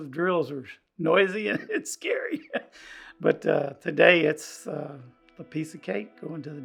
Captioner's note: laughter